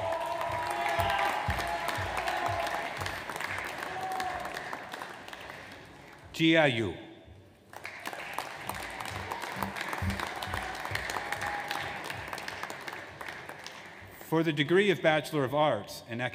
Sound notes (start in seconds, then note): 0.0 audience applauds; 7.6 audience applauds